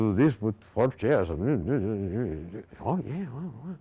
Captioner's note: grumbling